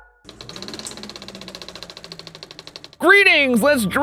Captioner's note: film camera clicking